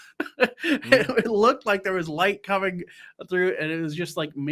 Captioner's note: scoffs